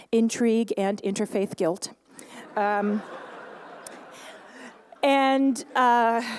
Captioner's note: laughter